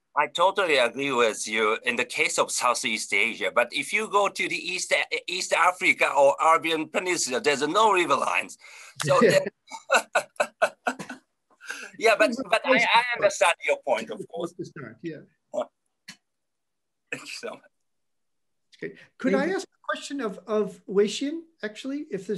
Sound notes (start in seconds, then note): 9.0 laughing